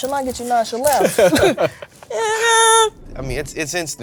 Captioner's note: laughs